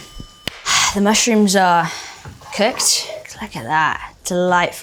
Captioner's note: bell dinging; Bella sighing